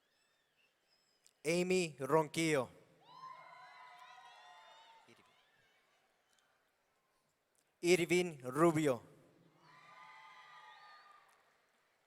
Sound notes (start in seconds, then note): 3.1 audience cheering; 9.6 audience cheering